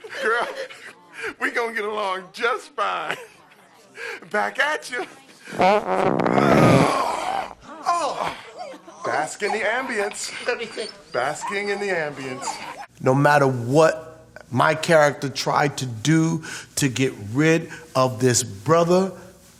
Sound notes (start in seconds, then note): 5.5 passing gas loudly; 8.5 dog whimpering